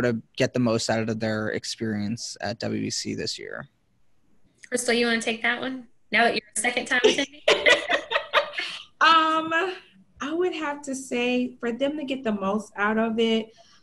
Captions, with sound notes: get the most out of their experience at W.E.C this year? - Crystal, you wanna take that one? Now that you're a second time attendee? (girls laughing) - I would have to say, for them to get the most out of it,